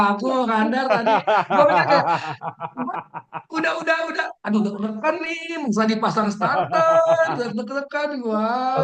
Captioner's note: laughs